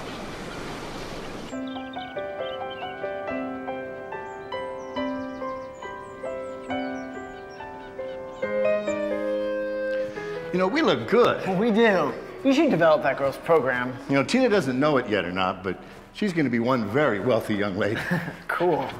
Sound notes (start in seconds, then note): 2.0 birds chirping; 2.0 bright hopeful music